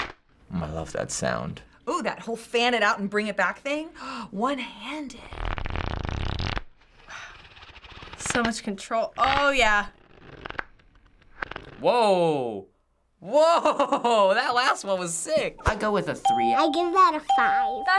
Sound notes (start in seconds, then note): 4.2 gasps; 7.3 whispers; 13.3 laughs